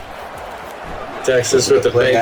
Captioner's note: crowd Noises